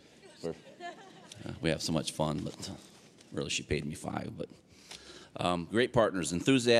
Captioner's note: laughing